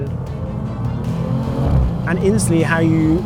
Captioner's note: upbeat music continues; vehicle revs